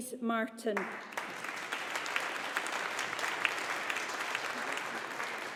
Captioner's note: audience applauding